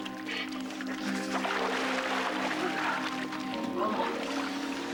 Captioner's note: Holly shivering